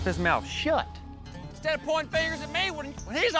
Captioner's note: angrily shouts